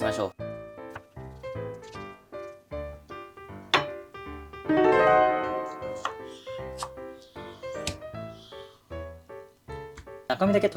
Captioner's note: sound of cutting aloe vera